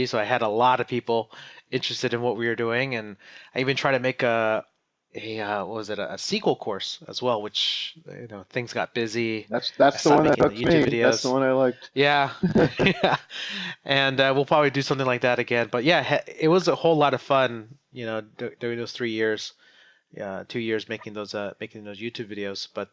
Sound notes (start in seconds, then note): 12.3 laughs